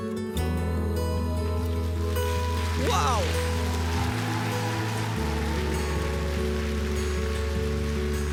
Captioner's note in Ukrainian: оплески